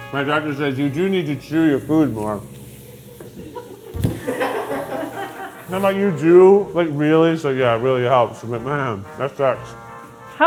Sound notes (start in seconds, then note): 3.6 crew laughing